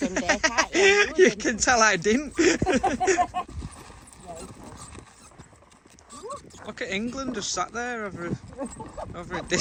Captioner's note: laughing